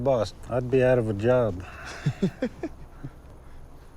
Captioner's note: laughing